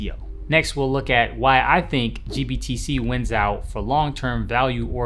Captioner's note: whooshing